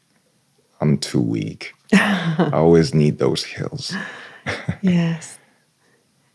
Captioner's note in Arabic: ضحك